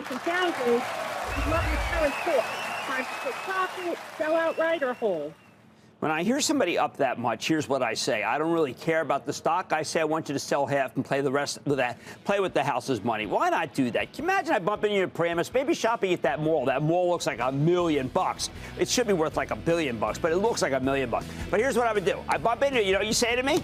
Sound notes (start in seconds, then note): 5.5 applause